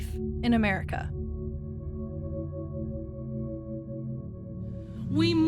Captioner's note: soundbite of archived recording